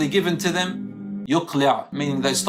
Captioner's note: Arabic